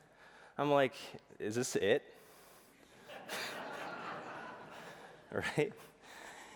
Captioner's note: laughter